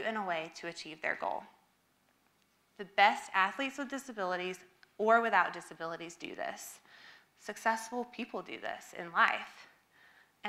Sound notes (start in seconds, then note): none